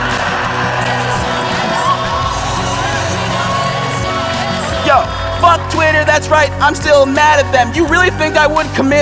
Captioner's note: applause